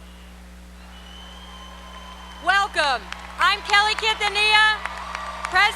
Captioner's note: applause